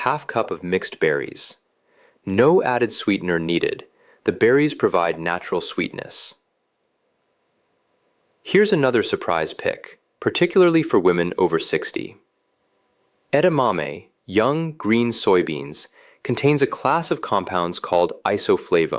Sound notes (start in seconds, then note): 7.0 pause